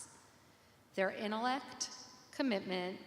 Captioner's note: none